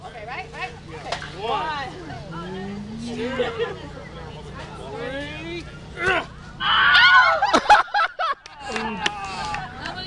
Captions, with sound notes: - OK, ready? - Yes. - 1...2...3! [ Screams ] [ Laughter ]